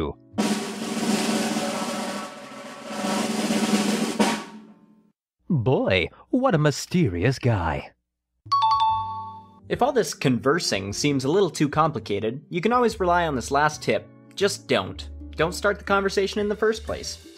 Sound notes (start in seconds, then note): 0.4 drum roll; 8.5 correct ding sound